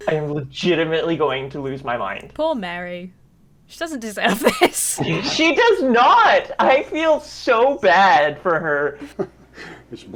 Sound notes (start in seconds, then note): 4.1 laughs